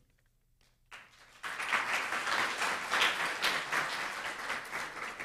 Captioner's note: audience applauds